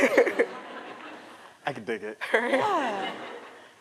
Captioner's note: laughter